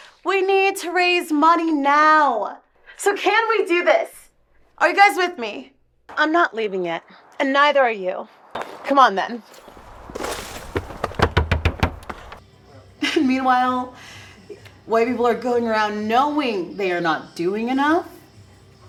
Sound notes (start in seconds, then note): 9.6 purse hitting bushes; 10.8 knocking on door